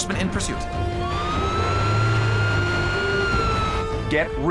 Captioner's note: siren wailing